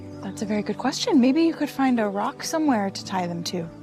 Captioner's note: none